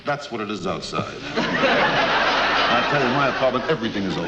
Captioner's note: audience laughs